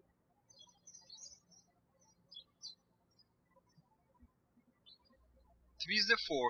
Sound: birds chirping

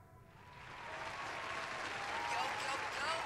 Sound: applause

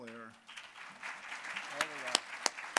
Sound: applause

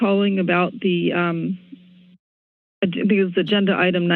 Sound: pause

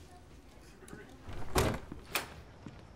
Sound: door opens

